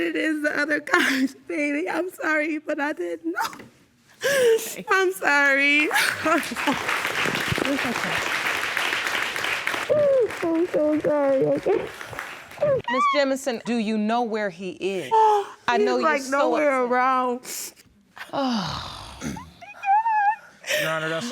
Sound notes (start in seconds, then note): 4.2 sobbing